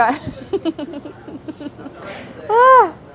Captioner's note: giggling